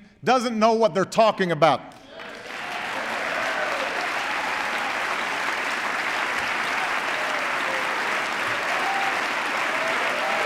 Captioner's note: applause